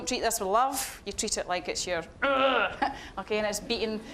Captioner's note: growling